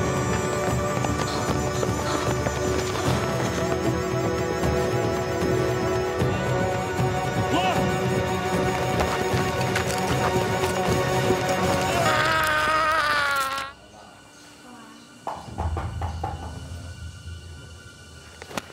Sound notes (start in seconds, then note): 1.2 Zhao Ji panting; 7.4 soldier shouts in foreign language; 11.6 Lao Ai wailing; 15.0 tense music; 15.3 object knocking